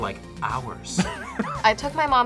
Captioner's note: React laughs